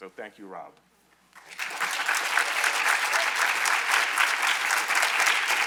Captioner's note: audience applauding